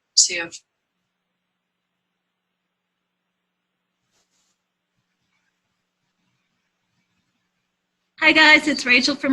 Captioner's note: pause